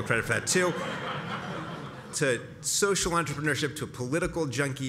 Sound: laugh

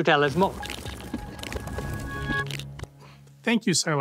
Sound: transition sound effect

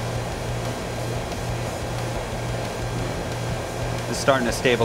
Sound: sound of AC unit running

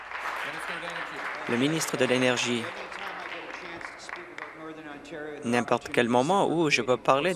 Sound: applause

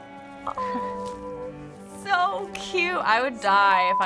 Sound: cooing

